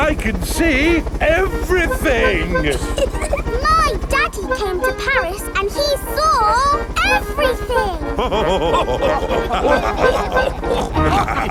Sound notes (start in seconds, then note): 3.2 chuckles; 7.3 all laughing